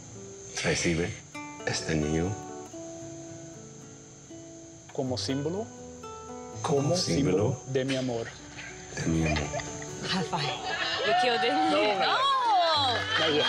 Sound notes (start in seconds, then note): 10.9 cheering; 11.1 speaking in Spanish